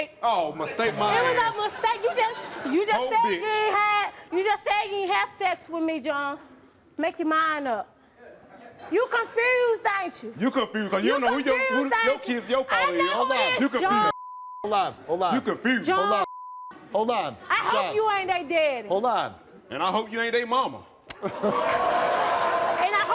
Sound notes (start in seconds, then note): 14.0 beep; 16.2 beep